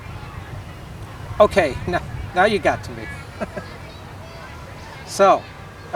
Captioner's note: awkward chuckle